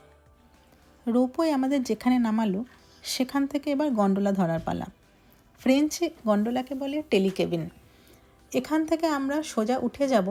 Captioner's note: in french